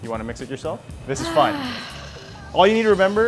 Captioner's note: sighs